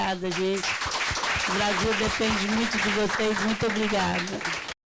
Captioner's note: audience applauding